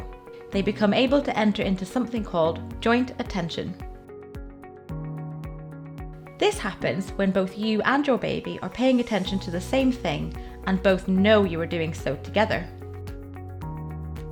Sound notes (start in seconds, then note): none